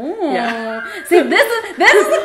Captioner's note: laughs